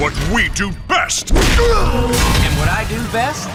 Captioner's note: punches